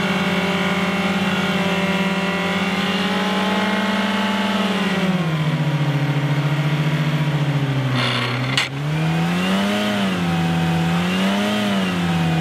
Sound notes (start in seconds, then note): 5.7 engine slows, gears grind; 9.2 engine speeds up